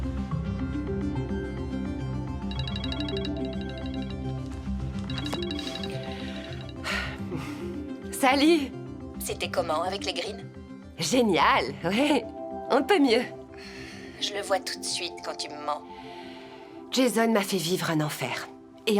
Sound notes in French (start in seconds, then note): 2.4 sonnerie de téléphone; 5.9 se racle la gorge